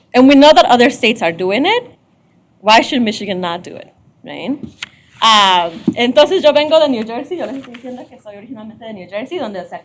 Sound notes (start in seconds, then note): 6.1 speaking spanish